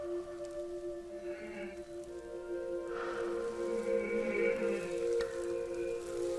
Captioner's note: muffled crying